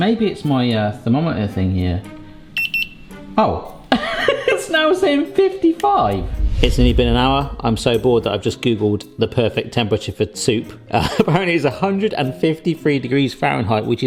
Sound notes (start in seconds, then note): 2.6 thermometer beeping; 4.0 laughing